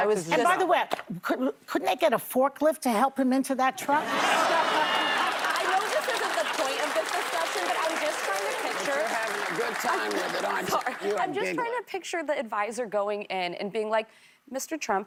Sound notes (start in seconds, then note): 6.6 laughter